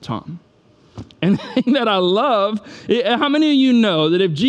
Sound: laughs

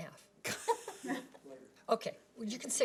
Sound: people laughing

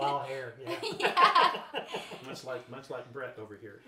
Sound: laughing

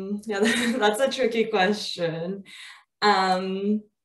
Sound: chuckles

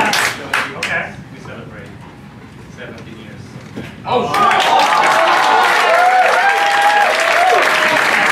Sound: applause; applause

